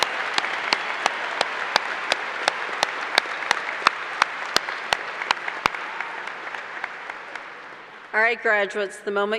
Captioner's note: applause